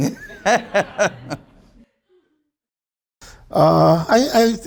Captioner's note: audience laughs